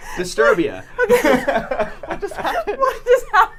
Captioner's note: laughs